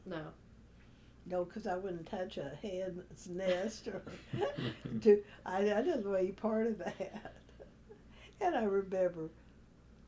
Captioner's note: laughter